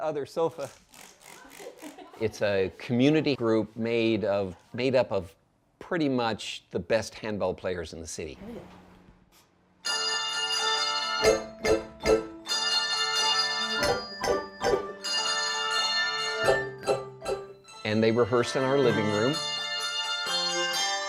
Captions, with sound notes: It's a community group made up of pretty much the best handbell players in the city. (bells ringing) And they rehearse in our living room. (bells ringing)